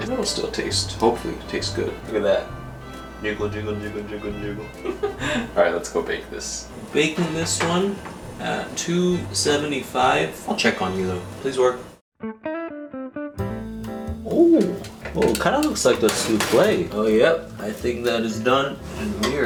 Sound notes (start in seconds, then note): 4.6 laughs; 13.4 upbeat music